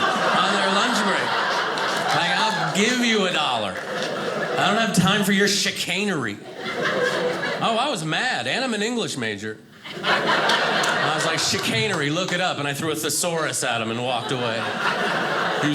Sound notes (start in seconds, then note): 9.8 audience laughing